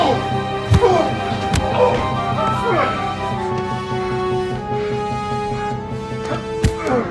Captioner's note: fists pounding; suspenseful music; suspenseful music continues; Colt groaning; fists pounding; suspenseful music continues